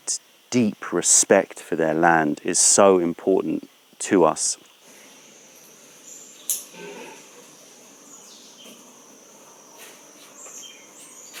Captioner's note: clucking sound